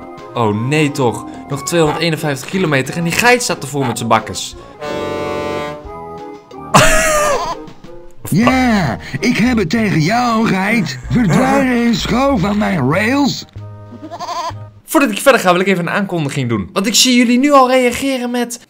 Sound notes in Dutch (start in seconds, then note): 4.7 Oswald toetert; 6.7 lacht; 7.3 geit mekkert